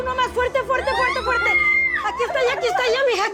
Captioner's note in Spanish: Gritos